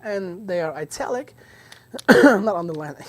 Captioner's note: coughs